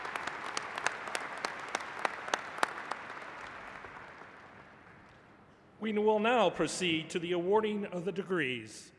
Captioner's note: applause